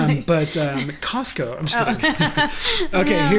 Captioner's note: laughs